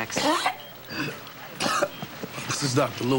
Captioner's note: coughing